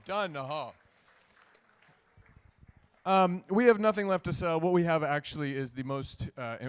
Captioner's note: applause